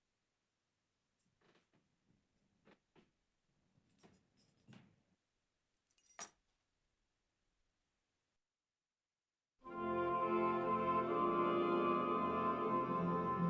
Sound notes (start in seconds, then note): 5.8 keys jingling; 9.6 bright classical music